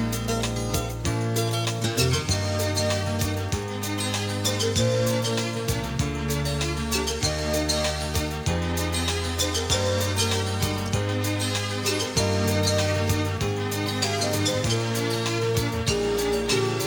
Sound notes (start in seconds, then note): none